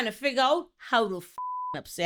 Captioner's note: beep